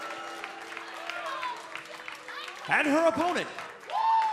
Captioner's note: cheers and boos